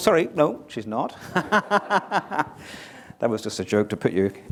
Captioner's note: laughter